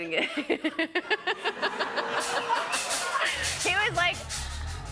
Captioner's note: laughter